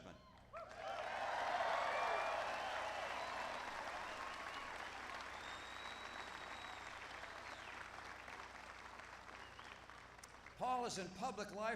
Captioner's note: applause